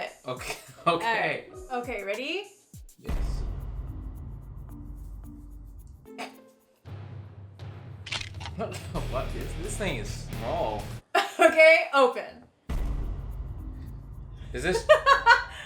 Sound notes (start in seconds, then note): 3.6 dramatic beat; 8.0 crunching; 12.7 dramatic beat; 14.7 laughs